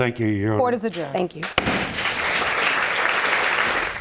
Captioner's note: audience applauding